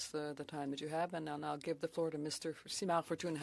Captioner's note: speaking French